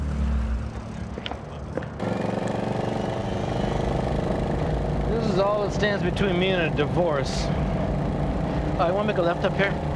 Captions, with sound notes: (engine revving) - This is all that stands between me and a divorce. You want to make a left up here?